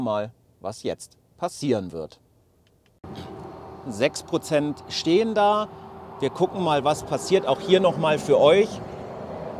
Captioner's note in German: exhales